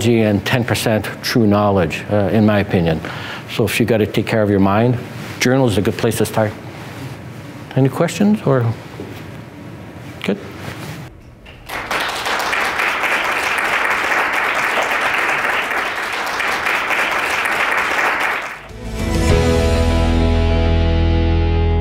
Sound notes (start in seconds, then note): 11.4 audience clapping; 18.6 upbeat music